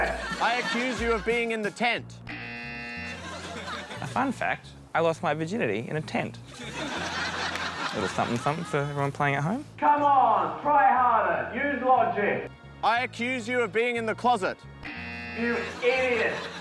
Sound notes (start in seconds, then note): 2.3 buzzer; 6.5 laughter; 14.8 buzzer